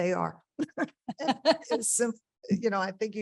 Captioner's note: panelist chuckling